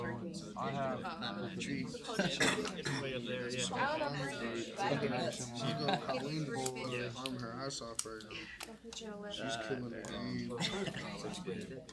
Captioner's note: students murmur